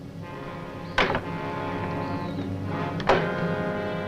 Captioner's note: door clacks